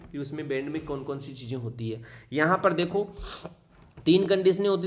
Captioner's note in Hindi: नाक से की जाने वाली आवाज़